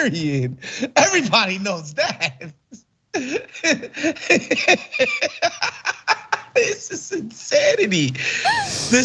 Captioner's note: laugh